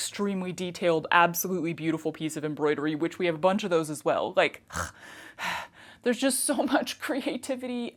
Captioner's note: snort, sigh